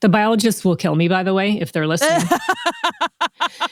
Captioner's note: laughter